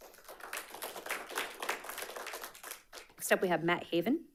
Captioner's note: audience applauding